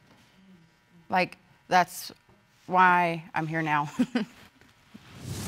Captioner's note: chuckles